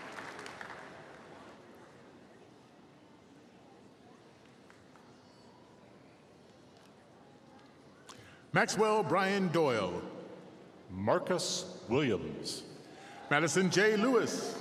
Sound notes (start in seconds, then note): 0.0 applause